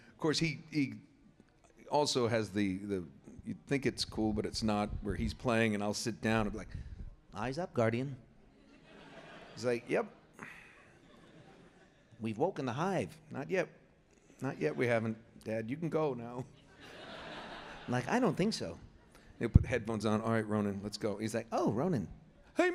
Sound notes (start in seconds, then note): 8.5 laughter; 16.5 laughter